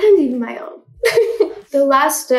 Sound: giggles

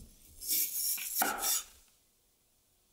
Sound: snap

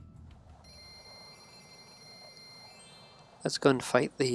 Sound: gems twinkle

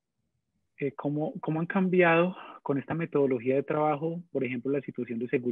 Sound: speaking in foreign language

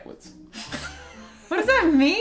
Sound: laughing

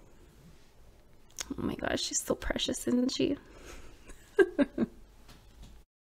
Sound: laughs

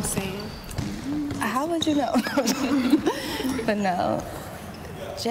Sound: all laughing

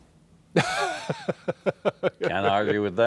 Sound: laughing

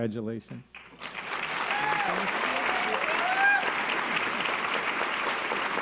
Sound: audience cheers and applause

